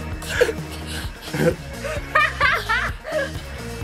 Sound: laughing

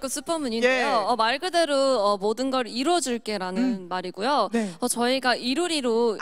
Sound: Korean

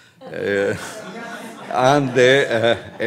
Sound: audience laughs

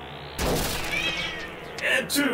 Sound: auto clanging and whirring; suspenseful synth music; cat howls

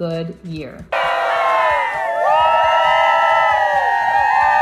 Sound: cheering

